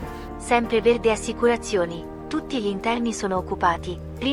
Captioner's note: voice of switchboard operator